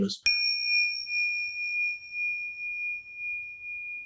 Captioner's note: bell rings